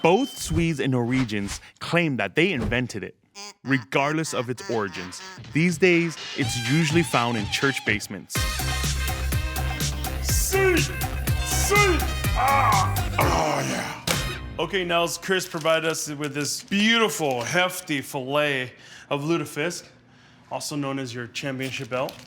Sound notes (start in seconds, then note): 8.3 upbeat music; 11.6 grunts